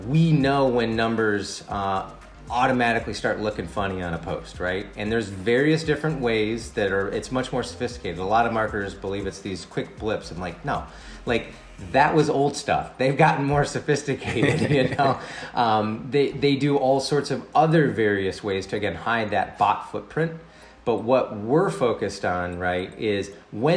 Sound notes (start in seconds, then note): 14.2 both laugh